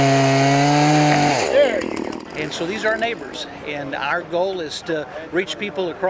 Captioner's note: chainsaw